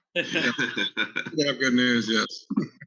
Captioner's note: laughs